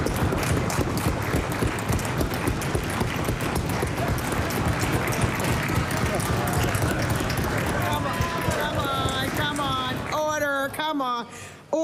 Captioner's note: applause